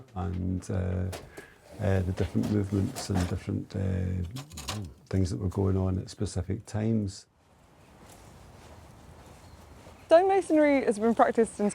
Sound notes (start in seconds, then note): 9.2 birds chirping